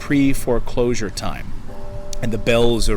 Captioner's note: church bells ringing